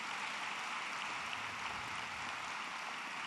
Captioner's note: applause